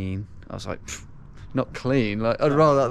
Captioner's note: scoffs